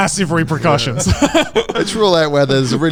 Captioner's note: laughing